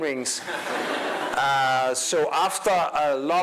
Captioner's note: crowd laughing